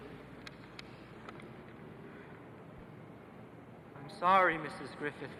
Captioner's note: paper crackling